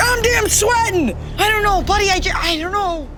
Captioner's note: all laugh